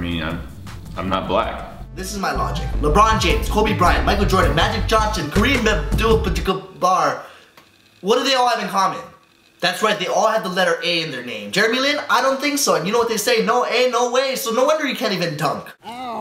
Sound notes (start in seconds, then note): 5.5 stuttering